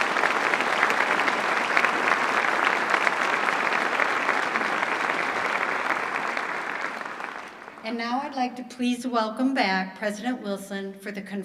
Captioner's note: applause